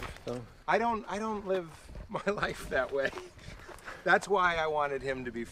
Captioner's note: laughs